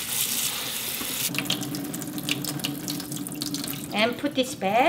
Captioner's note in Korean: 물떨어지는 소리